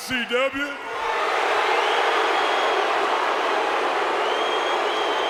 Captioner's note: audience booing